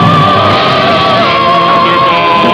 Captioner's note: crash!